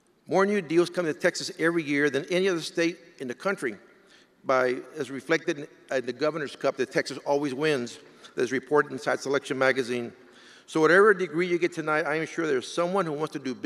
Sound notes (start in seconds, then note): none